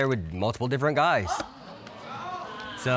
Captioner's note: audience exclaiming